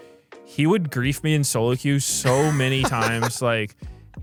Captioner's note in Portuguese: risos